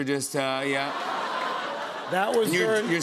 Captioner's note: laughter